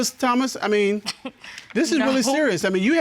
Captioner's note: scoffs